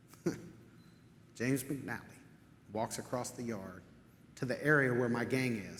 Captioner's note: chuckles